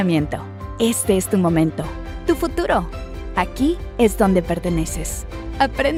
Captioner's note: announcer speaking Spanish